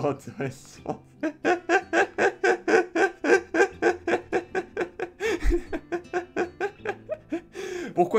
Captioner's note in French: Rires